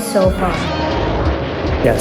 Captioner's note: monster roaring